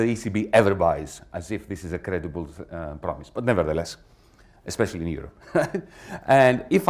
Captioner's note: laughs